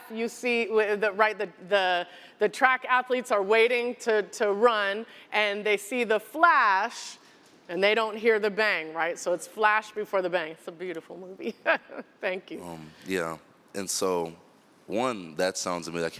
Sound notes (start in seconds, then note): 11.4 laughter